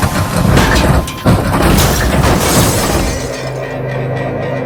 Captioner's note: car crashing